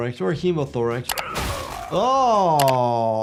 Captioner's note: grunting